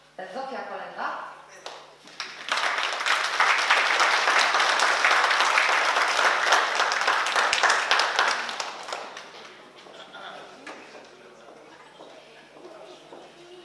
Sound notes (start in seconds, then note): 2.0 oklaski